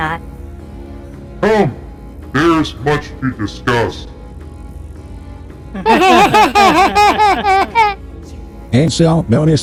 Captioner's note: whispering back; in a booming voice; they both laugh nervously